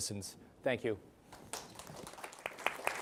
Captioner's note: applause